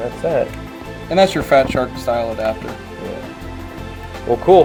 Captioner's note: voiceover